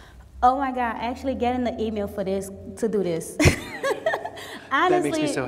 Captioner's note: laughs